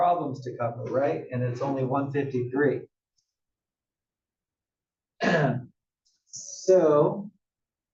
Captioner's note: cough